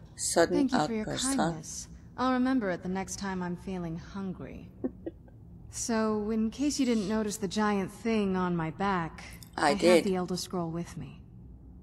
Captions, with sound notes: "Sudden outburst" huh? (chuckles) I did.